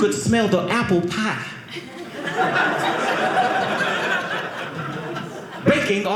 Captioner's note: audience laughing